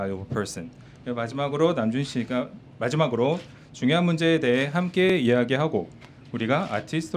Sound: speaks Korean

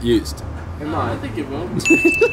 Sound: laughing; bell chiming

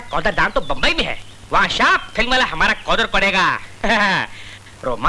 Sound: chuckles

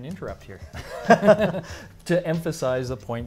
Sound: laughing

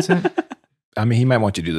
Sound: laughing

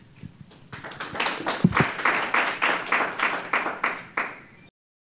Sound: crowd applauding

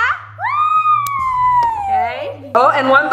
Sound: cheering

